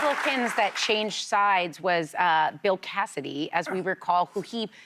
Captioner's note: cheers and applause